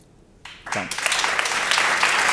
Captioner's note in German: Applaus